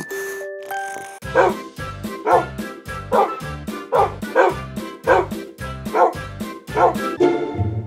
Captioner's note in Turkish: Horlama, Hırlama ve Ninni Tarzı Ses; Havlama Sesleri